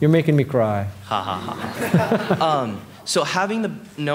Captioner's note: audience laughing